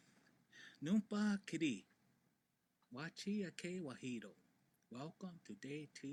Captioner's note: speaks native language